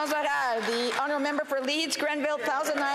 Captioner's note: applause